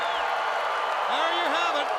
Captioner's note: crowd roaring